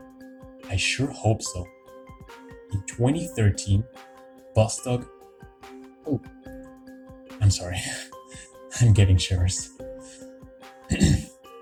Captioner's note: gulp; clear throat